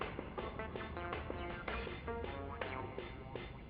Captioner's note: traffic passes